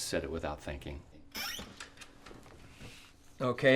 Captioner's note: chair creaks